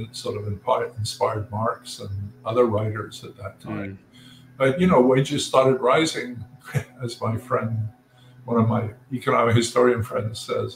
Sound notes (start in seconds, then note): 6.6 laugh